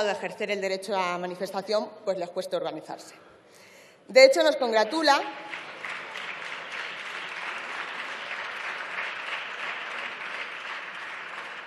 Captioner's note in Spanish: Aplausos